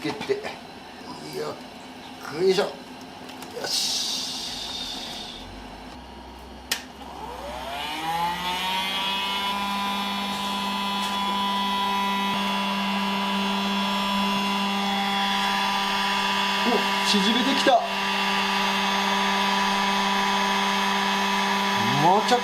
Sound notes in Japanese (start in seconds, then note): 6.4 モーター音; 19.8 モーター音